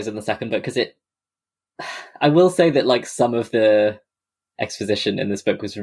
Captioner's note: sighs